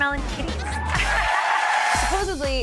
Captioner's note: audience clapping